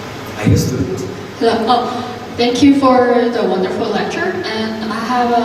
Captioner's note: voiceover